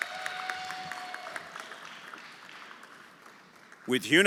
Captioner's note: audience cheering; everyone applauding